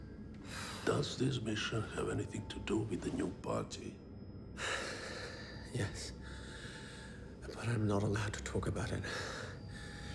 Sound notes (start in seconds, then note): 4.3 sighs